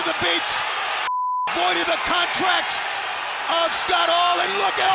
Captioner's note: beep